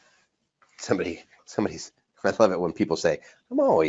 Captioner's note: laughs